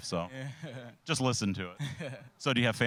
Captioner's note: chuckling